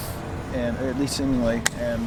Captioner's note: hands clapping